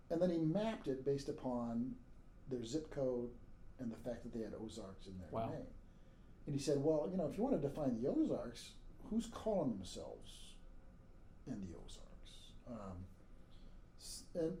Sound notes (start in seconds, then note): none